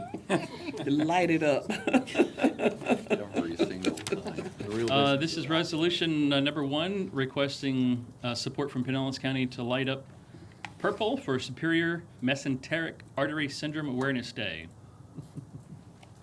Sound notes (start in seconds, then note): 3.3 laughter